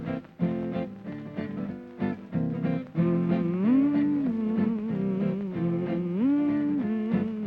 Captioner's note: humming